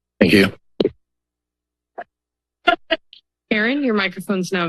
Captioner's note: silence